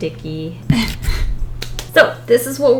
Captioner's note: nervous chuckle